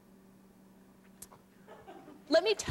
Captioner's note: laughter